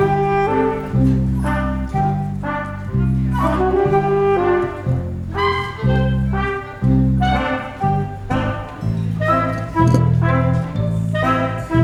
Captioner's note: pirates groaning